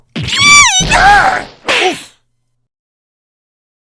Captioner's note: whispering; slap!